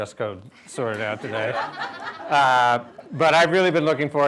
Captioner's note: laughter